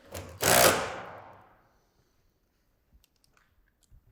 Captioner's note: drill whirring